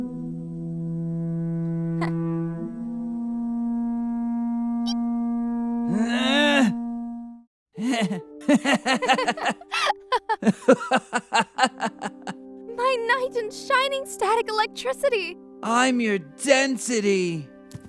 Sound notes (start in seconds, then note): 8.4 laughing